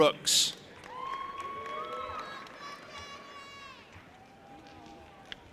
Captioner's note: audience applauding and cheering